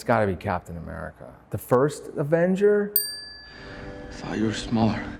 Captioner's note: bell dings